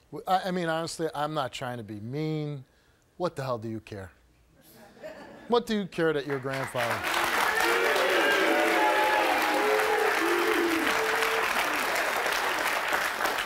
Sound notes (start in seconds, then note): 4.6 audience laughs; 6.2 audience applauds